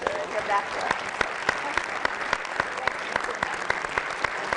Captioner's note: applause